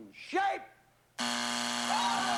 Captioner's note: buzzer